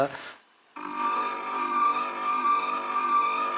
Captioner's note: muffled whirring, squeaking